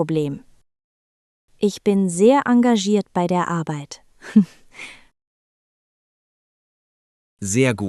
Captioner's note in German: lacht